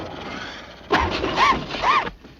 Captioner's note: engine backfiring